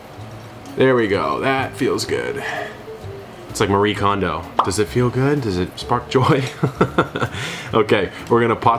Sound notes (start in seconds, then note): 4.5 image pops; 6.4 laughs